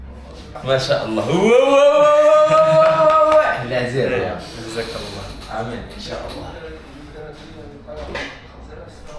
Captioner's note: cheering